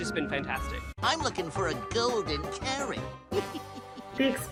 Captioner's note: giggles